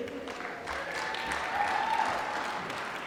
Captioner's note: applause